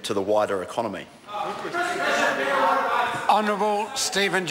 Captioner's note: members shout